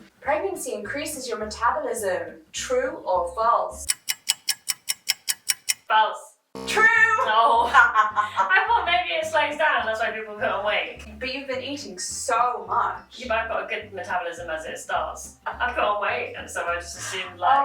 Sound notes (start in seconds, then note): 3.8 clock ticking; 7.2 laughing